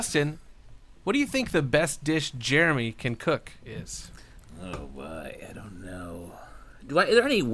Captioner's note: muttered